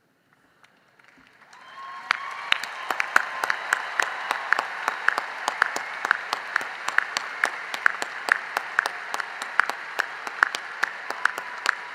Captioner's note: cheering and applause